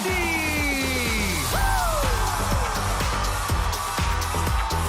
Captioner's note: crowd cheering